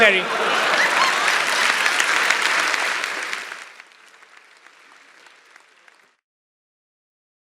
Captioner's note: applause